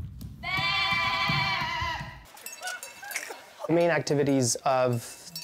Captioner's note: baaing